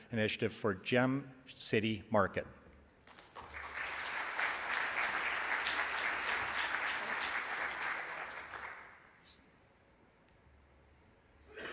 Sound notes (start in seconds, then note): 3.0 audience applauds